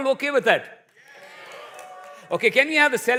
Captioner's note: cheers, applause